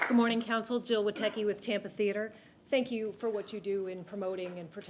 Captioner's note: applause